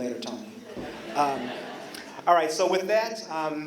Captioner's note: laughter